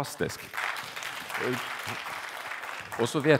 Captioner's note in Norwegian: applaus